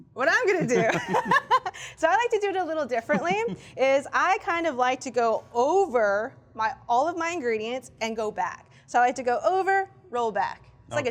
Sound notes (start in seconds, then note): 3.0 laughs